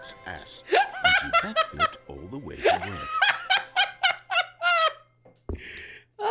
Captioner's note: laughs